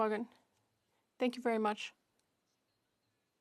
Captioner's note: speaking French